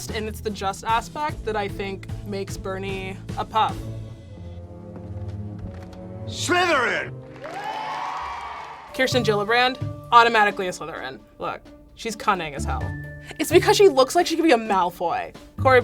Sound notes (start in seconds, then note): 4.6 dramatic music; 7.2 students cheering